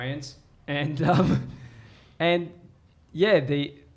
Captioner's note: chuckles